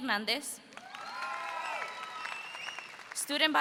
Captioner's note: audience cheers